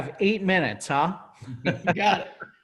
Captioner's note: laughs